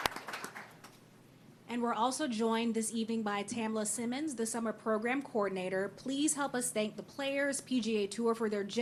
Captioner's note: applause